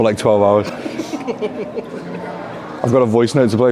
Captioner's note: laughs